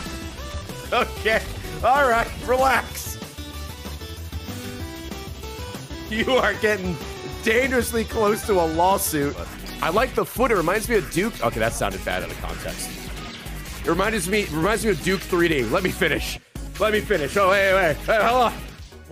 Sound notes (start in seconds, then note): none